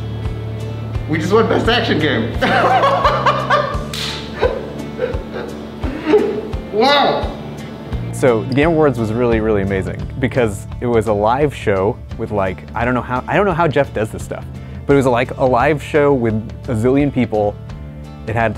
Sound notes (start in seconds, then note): 2.4 laughing